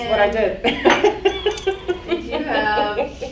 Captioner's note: laughing